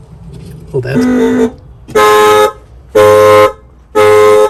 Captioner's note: car alarm horn honking